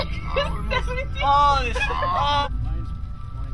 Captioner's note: laughs